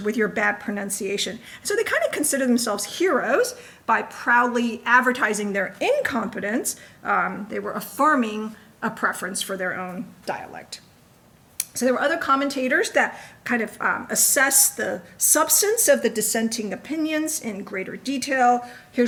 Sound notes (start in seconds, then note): none